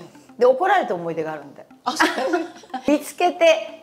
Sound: laughter

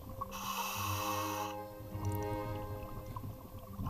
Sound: breathing

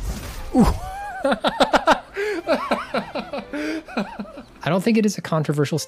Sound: gleeful chuckling

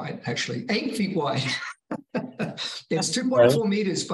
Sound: laughing

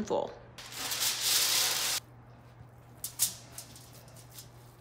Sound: foil rustling

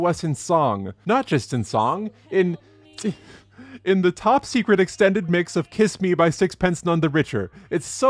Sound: chuckles

